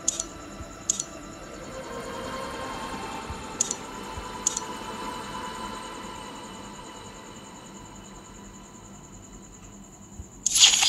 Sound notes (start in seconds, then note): 0.9 clicks the button; 8.7 engine roar